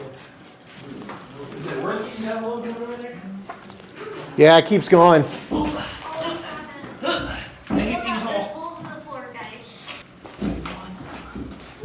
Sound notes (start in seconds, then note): 7.0 grunts